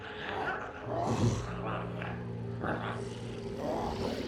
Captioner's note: Smelly grunts; glowzies growling